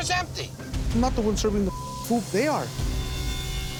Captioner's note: beep